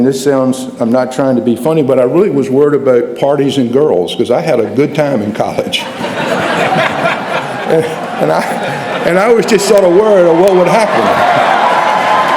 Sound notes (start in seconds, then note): 5.7 laughter